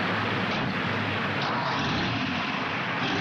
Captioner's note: engine starting